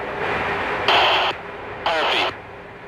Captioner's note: signal distortion sound